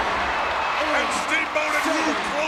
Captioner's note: commentators exclaim